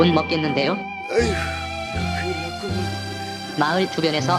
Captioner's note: sigh